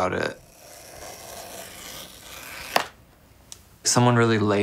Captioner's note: knife slicing